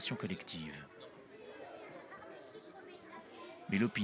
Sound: indistinct chatter

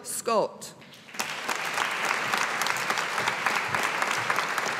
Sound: audience applauding

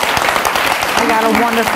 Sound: audience applauds

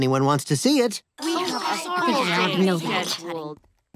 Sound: chattering

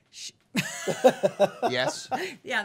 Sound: laughing

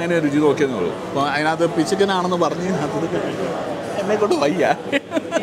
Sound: laughs

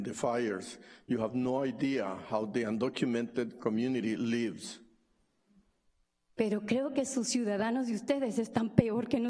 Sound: speaking spanish

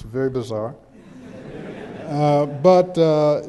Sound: background chuckles

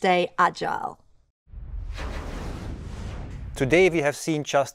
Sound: whooshing

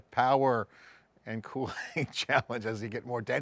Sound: laughs

